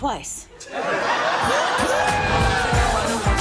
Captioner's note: audience laughing; upbeat music